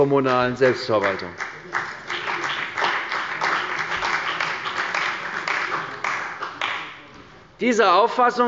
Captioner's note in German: Beifall bei Abgeordneten der CDU, dem BÜNDNIS 90/DIE GRÜNEN und der FDP